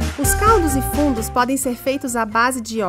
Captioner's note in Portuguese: Voz em off